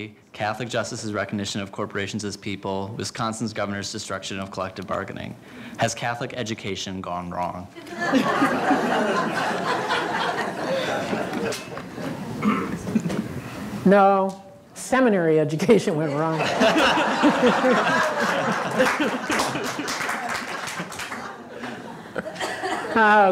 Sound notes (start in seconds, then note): 7.8 laughter; 16.2 laughing; 16.3 laughter and Applause